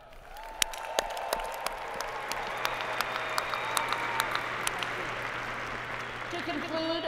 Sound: applause

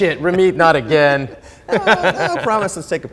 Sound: both laughing

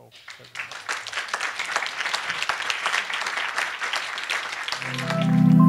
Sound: applause

